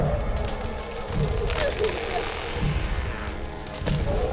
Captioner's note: crying